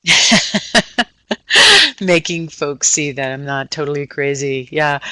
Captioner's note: laughing